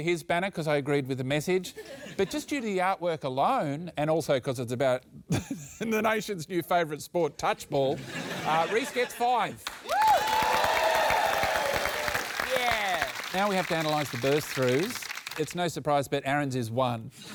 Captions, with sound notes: because I agreed with the message. But just due to the artwork alone, and also because it's about the nation's new favourite sport, touch ball, Rhys gets five. (CHEERING, APPLAUSE) Yeah! Now we have to analyse the burst-throughs. It's no surprise, but Aaron's is one.